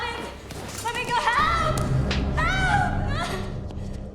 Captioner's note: slapping; sobbing, screaming